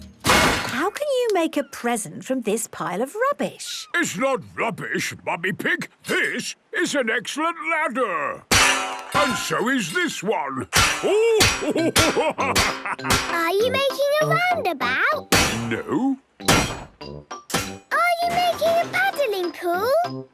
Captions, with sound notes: - How can you make a present from this pile of rubbish? - It's not rubbish, Mummy Pig. This is an excellent ladder! - (clanging) - And so is this one! - Bash, bash, bash! - (laughing) - Are you making a roundabout? - No... - Bash! - Are you making a paddling pool?